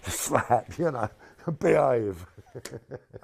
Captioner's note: laughs